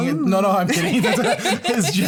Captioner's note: laughter